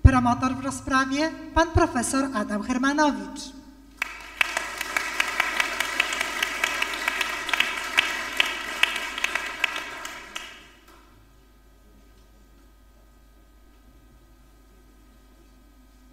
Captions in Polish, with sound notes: Promotor w rozprawie Pan prof. Adam Hermanowicz. [oklaski]